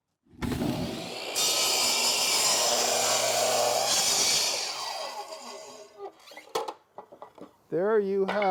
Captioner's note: saw whirring